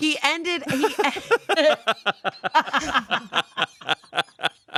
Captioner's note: everyone laughs